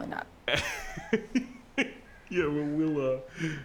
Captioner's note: Mr. Machen laughs